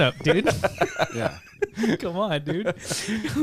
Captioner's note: laughing